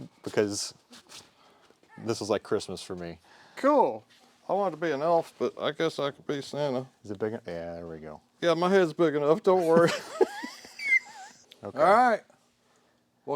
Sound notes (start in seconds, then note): 9.6 both laughing